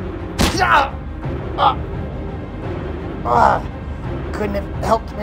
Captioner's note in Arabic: داريوس ينخر من الألم